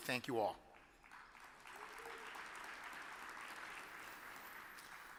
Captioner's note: audience applauds